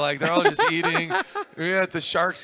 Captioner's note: laughter